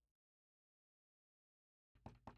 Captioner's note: Door knock